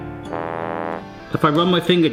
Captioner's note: fail trombone honks